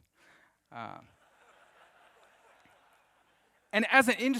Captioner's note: audience laughs